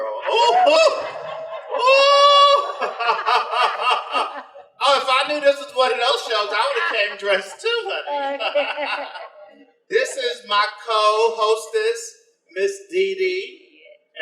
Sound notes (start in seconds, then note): 0.2 laughs; 8.4 both laugh